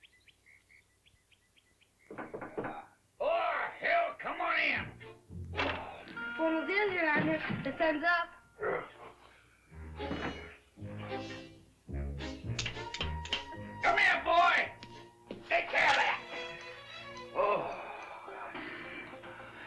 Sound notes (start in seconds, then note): 2.1 knocking; 8.5 groans; 9.8 whimsical music; 12.5 slapping sound; 17.2 groans